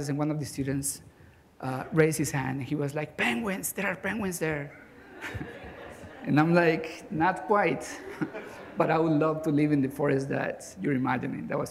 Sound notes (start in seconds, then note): 4.8 laughter